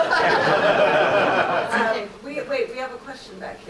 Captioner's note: audience laughs